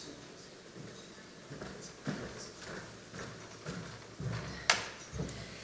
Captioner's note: footsteps pattering